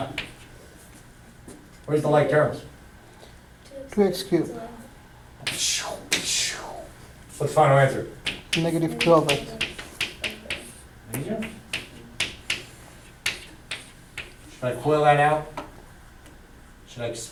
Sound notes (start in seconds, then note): 4.1 voiceover; 8.8 voiceover; 10.9 chalk clicking on board